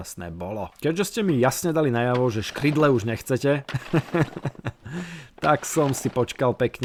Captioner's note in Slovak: smiech